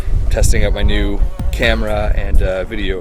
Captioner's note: none